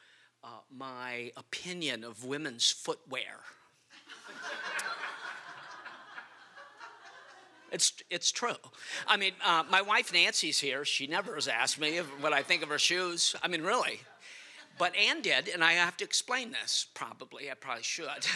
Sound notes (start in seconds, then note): 3.9 laughter